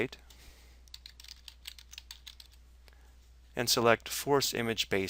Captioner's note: keys clicking